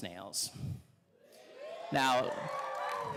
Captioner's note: audience cheering